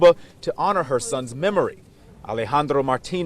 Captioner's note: speaking foreign language